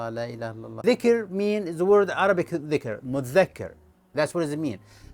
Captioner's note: Arabic